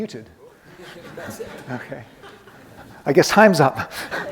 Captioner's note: audience laughing